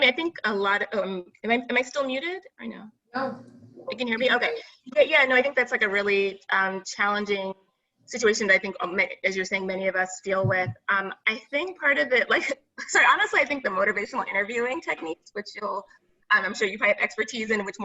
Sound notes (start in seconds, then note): 12.4 laughs